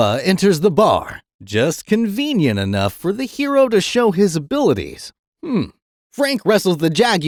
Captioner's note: sarcasm